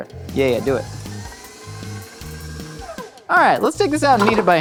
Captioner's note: mixer whizzing